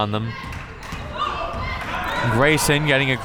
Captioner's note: crowd members chanting